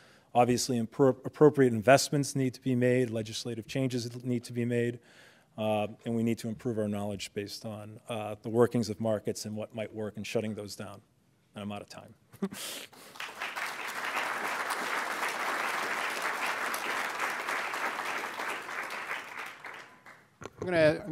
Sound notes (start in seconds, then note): 13.0 applause